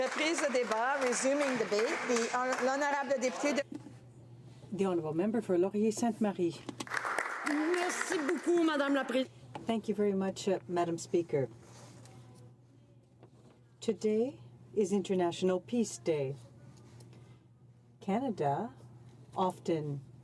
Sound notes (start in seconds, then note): 9.1 speaking French